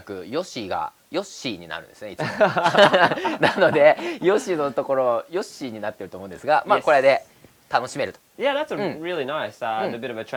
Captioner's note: laughs